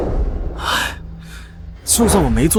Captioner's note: sighs